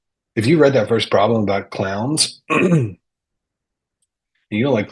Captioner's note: clears throat